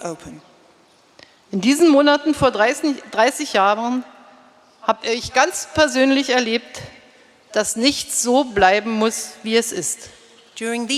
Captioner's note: speaking in German